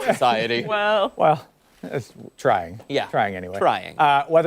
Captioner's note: laughter